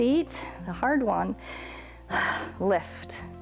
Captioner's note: exhales